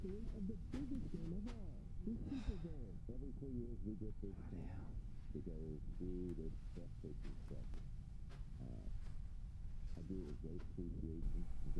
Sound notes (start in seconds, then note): 2.9 sighs